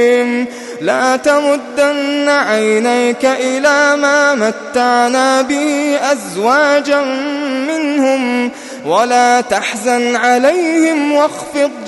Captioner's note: longingly